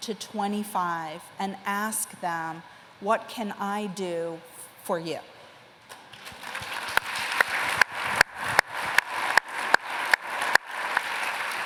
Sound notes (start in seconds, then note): 6.0 applause